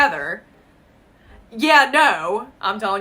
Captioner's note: silence